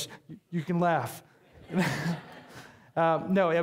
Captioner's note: audience laughing